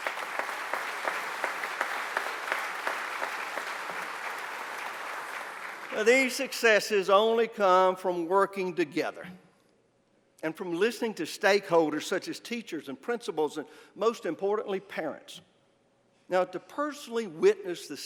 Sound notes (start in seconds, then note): 4.9 applause